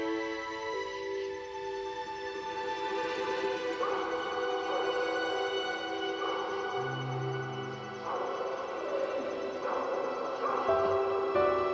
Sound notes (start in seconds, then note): 0.2 gentle music continues; 4.1 distant dog barking; 8.7 tranquil music